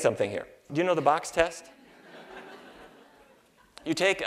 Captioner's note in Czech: Smích